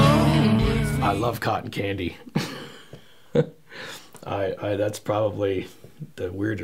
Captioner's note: chuckling